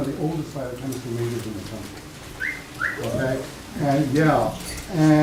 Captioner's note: whistling